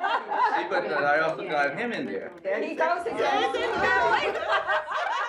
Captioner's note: speaking Cantonese